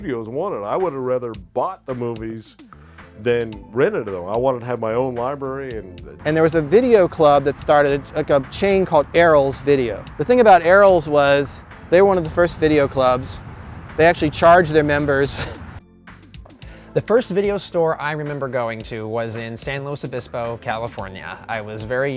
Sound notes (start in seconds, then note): 15.3 giggles; 15.9 background music